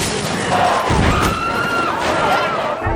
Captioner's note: woman screams